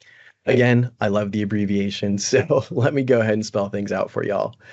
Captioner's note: brief laughter